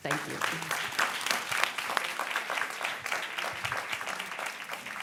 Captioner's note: audience clapping